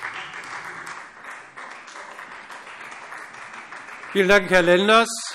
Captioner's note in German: Beifall Freie Demokraten